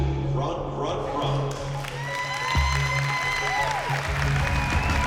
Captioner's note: cheering, whooping